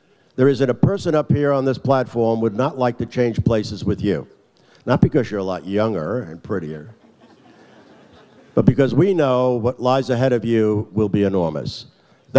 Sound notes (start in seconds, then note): 7.0 audience laughs